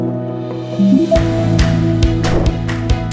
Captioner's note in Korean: 활기찬 음악; 물방울 효과음